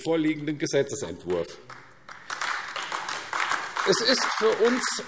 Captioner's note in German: Beifall AfD